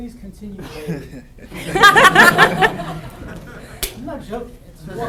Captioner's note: laughter